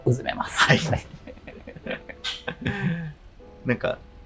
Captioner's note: laughing